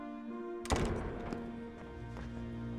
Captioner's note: door slams shut